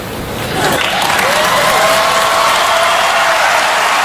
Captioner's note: applause and cheers